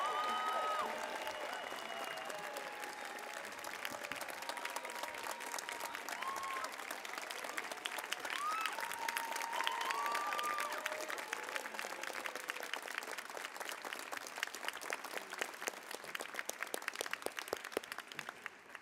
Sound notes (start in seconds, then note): 5.0 applause